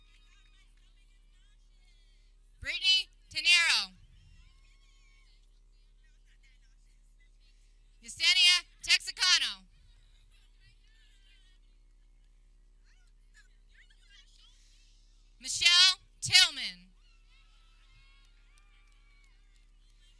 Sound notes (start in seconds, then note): 0.0 people cheering; 7.6 laughs